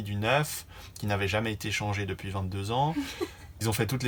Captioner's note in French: rires